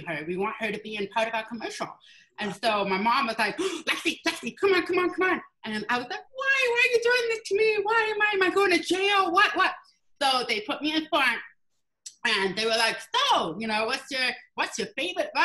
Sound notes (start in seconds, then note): none